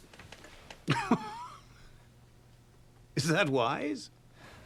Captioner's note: laughs